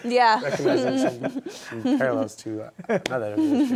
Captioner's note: laughter